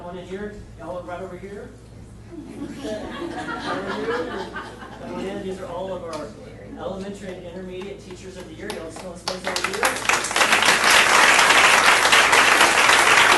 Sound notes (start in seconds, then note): 2.3 audience laughing; 9.2 audience applauding